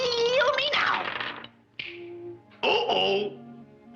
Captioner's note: dice rattling; fingers snap